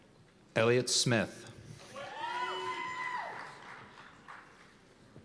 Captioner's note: cheers and applause